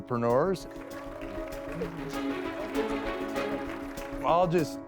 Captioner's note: applause